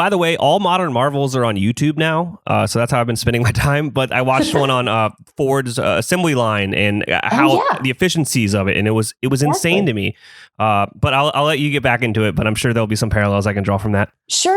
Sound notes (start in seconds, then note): 4.3 laughs